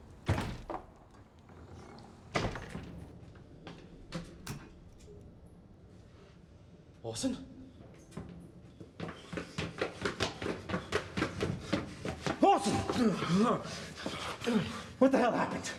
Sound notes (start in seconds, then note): 4.0 light switch clicks; 13.9 gasps